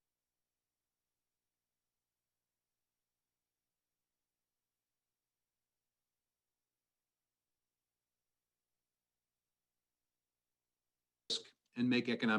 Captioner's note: no audio